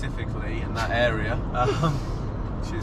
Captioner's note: both chuckling